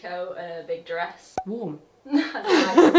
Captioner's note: laughs